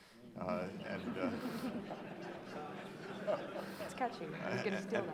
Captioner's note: audience laughing